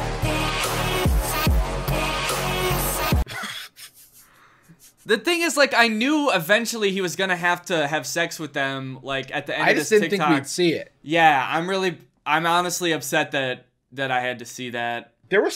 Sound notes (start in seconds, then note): 3.2 laughs